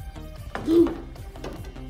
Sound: chokes

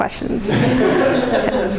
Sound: laughter

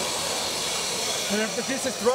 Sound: drilling

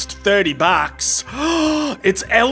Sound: gasp

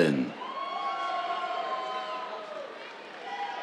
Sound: cheers, applause

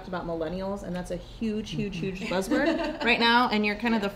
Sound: laughter

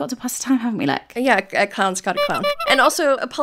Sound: clown horn

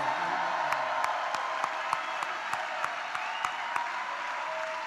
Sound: congregation applauds

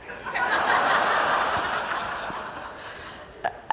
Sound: laughter

